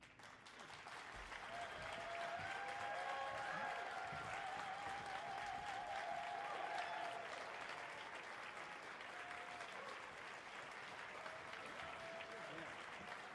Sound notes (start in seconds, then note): 0.3 audience applauding; 1.4 audience cheering